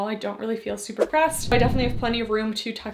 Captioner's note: screen whooshing